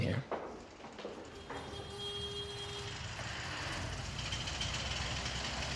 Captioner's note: horn honking